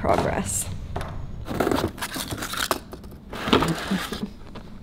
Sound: objects clatter

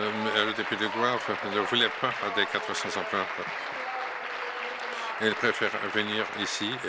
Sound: applause

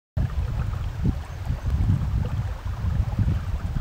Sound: water trickling

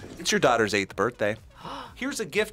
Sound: gasps

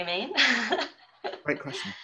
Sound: laughing

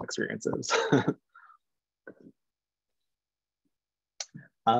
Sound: chuckling

